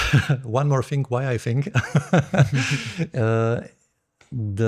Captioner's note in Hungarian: nevetés